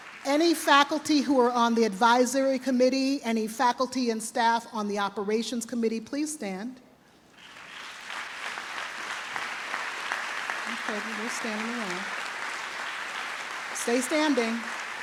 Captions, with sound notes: Any faculty who are on the Advisory Committee, any faculty and staff on the Operations Committee, please stand. (trustees and audience applaud) Okay, everybody standing now. Stay standing.